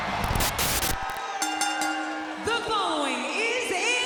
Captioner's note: bell chimes